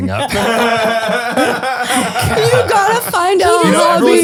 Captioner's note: laughing